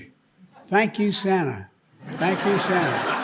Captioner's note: audience laughing